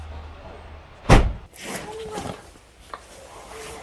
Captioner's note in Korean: 문닫는 소리